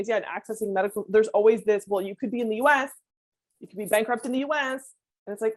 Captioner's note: none